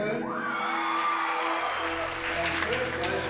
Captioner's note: audience applauding and whooping